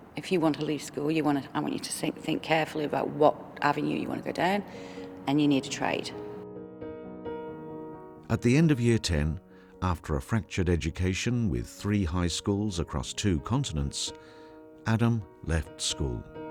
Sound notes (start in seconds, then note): 6.7 mellow piano music; 8.5 voiceover